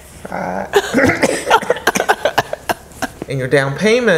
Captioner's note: coughing